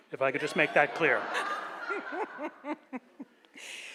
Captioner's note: laughs